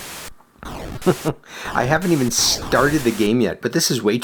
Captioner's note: chuckles